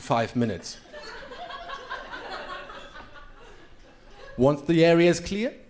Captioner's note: crowd laughing